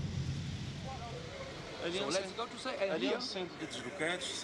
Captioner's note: speaking foreign language